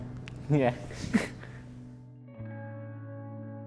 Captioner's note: chuckling